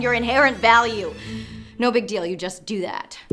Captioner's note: deep inhale